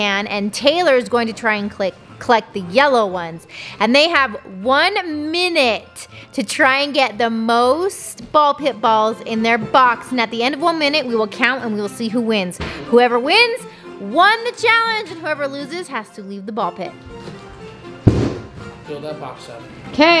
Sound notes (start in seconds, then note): 18.0 boxes crashes on floor